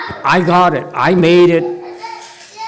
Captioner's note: master taps at chest